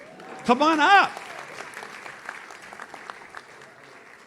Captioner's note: audience claps